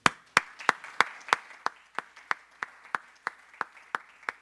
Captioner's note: audience applauding